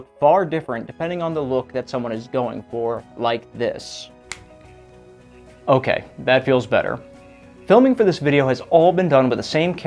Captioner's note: snap